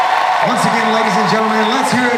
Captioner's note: voiceover